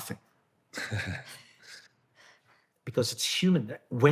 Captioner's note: laughing